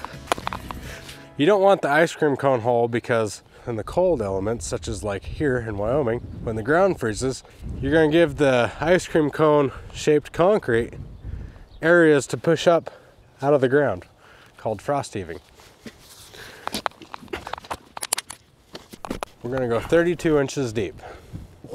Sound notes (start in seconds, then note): 16.1 shovel thudding